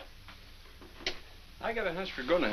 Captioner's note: radio clicks off